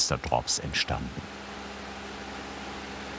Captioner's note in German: Rauschen